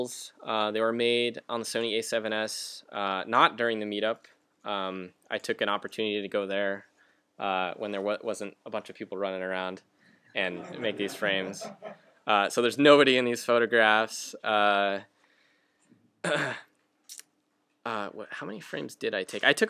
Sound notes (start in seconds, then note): 10.6 laughter